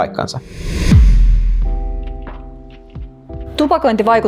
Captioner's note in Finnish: siirtymä-äänitehoste